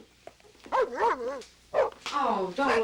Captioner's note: dog barking